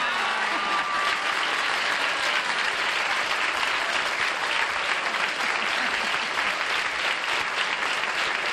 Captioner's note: applause